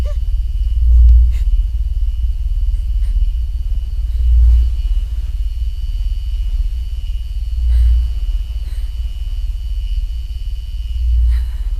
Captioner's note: electricity hums